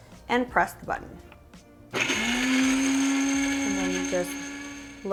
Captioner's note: appliance buzzes